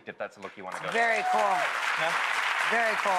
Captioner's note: audience applauding